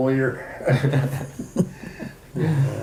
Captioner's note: all chuckle